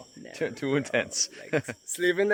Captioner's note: chuckles